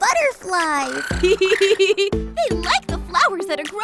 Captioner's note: laughs